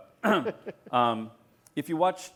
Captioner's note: laughter